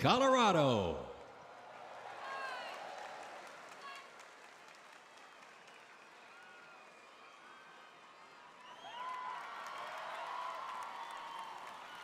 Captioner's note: cheers and applause